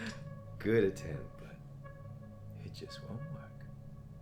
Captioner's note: Captain Brookes giggles